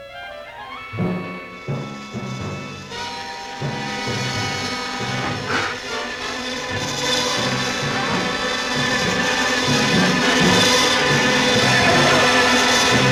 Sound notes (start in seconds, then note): 0.2 dramatic music; 5.0 gasping; 6.9 buzzing; 8.3 yelling; 10.2 dramatic music